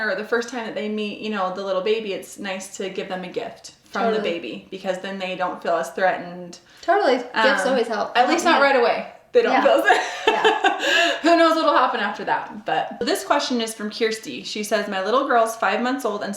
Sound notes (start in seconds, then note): 9.7 laughing